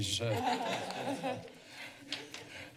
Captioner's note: laughter